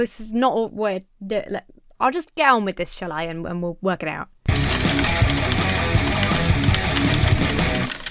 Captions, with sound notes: This is not... We're... I'll just get on with this, shall I? And we'll work it out. (aggressive heavy metal music) (keyboard clacking)